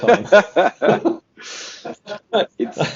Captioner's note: laughing